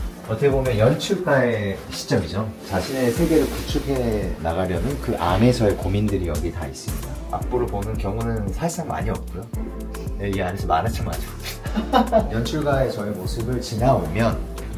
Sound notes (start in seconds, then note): 11.4 haha